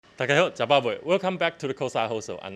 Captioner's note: Taiwanese